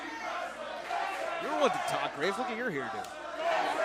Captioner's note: crowd cheering